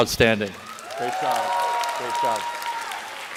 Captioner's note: applause